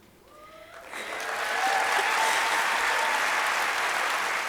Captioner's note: audience applauding